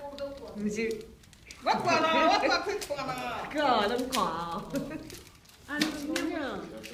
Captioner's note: speaking foreign language; speaking foreign language